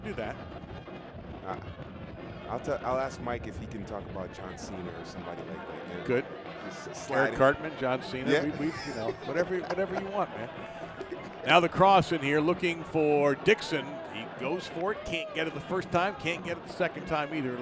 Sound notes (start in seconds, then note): 8.4 laughter